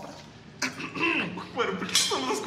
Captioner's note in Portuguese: Limpa garganta